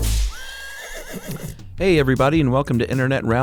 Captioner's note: horse whinnies